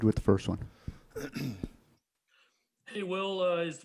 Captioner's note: Will clears throat